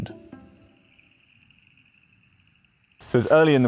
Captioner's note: insects chirping